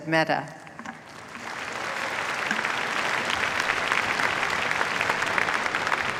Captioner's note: applause